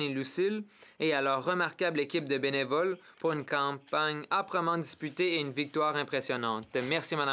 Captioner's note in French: voix de l'interprète